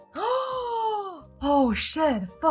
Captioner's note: gasping